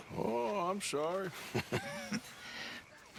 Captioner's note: laughs; he and Hosea laugh